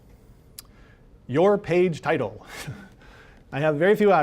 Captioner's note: chuckling